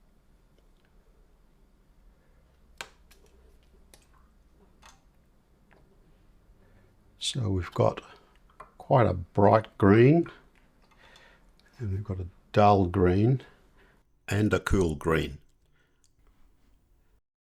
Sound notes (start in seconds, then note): 1.0 silence; 16.0 silence